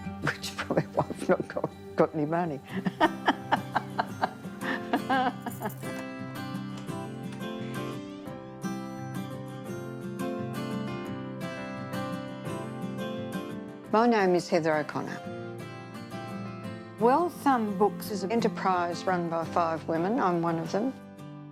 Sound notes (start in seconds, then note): 2.7 laughter